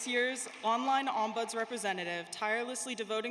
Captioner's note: applause